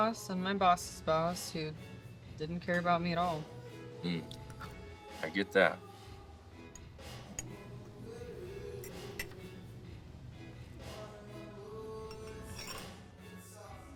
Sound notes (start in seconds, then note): 8.7 silverware clinking; 10.7 slow reggae music